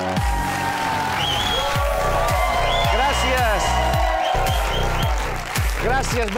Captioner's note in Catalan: aplaudiments